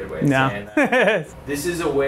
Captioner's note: laughter in background